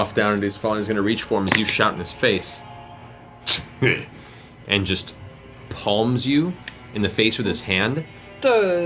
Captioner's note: scoffs